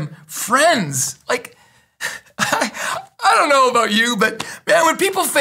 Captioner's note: laughs